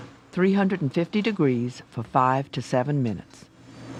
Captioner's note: voiceover